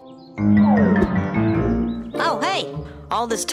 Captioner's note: birds chirping; upbeat piano music